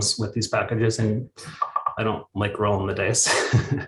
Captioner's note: chuckles